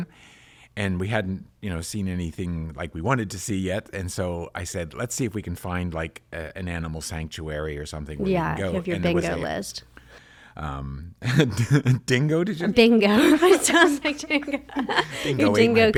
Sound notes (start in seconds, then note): 11.1 laughs; 13.1 both laugh